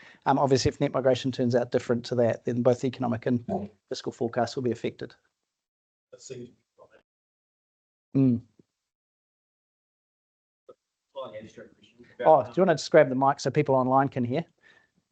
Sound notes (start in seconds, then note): 10.3 chattering